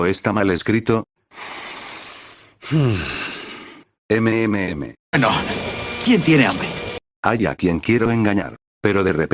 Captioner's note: breath_01